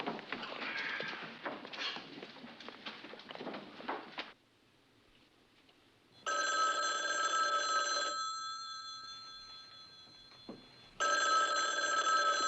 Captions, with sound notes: You may each telepho [ Phone Ringing ]